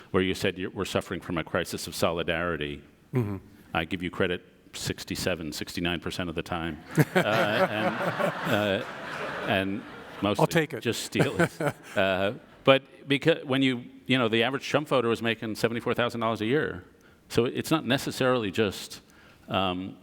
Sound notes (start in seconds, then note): 6.8 audience laughs